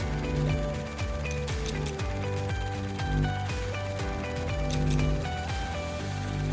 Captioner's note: upbeat music; bulb buzzing; scissors snipping; upbeat music